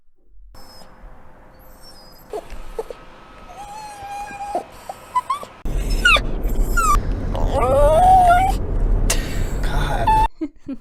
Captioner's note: dog crying noises